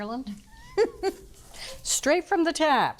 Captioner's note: laughing